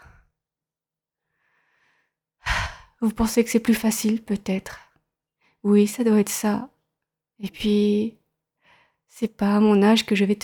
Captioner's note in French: soupir